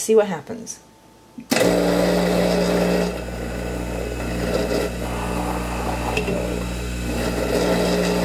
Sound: hydraulic press sound

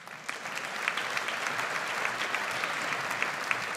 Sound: audience applauds

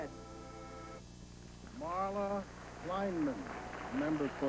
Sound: applause

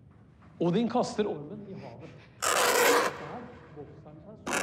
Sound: deep, loud scratch

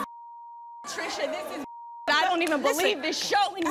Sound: beep

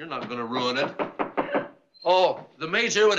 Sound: knock at door

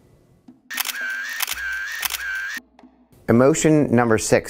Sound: camera clicking

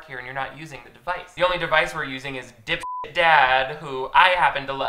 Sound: beeps

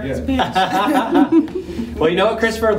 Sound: laughing

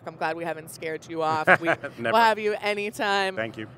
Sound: laughing

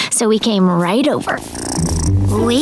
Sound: purring; knocking

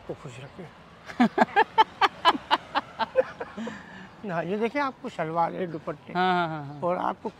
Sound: laugh

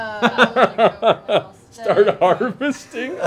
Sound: laughing

